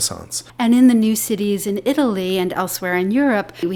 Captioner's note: voiceover